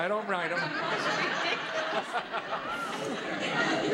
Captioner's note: audience laughing